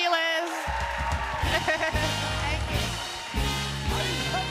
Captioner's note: cheers and applause